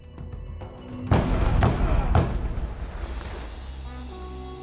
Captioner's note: thudding